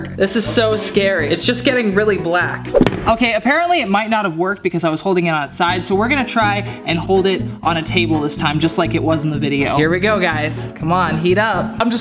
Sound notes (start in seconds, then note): none